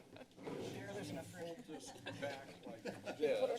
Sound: laughing in background; background conversations; laughter

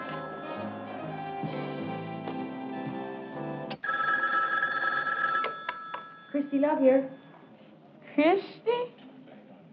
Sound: phone rings

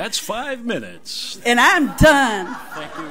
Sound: audience laughs

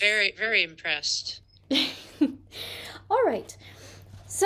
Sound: laughter

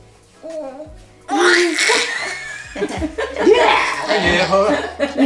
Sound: baby screams

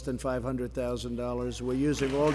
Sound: applause

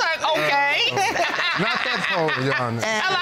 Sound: laughs boisterously

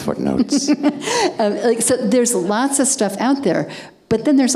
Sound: laughing

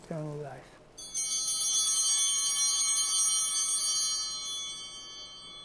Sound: chimes ringing

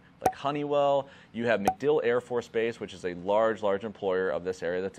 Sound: logos popping

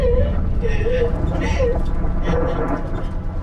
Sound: sobbing Continues; thunder Rumbling

